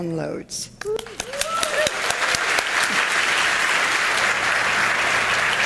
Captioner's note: audience applauding